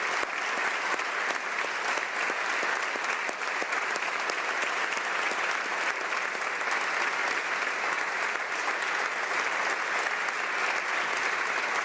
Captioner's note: applause